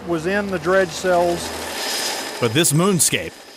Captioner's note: helicopter rotor